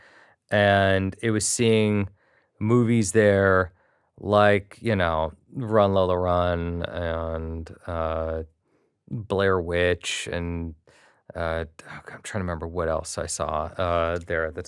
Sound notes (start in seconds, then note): none